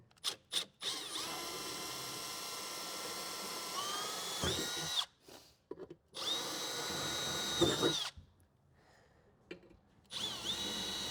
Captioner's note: drilling